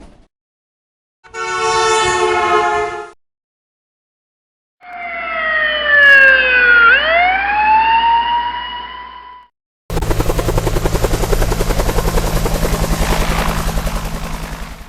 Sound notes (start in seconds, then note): 1.3 van honking; 4.8 fire Truck Siren; 9.9 helicopter sounds